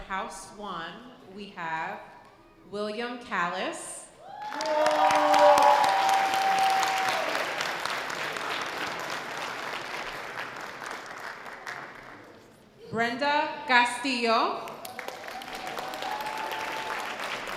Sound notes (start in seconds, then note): 4.3 sustained audience cheers; 4.4 audience applause; 14.8 audience applause